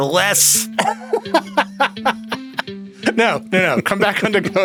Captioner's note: laughs